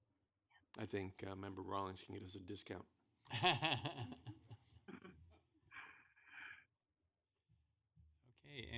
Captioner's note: laughter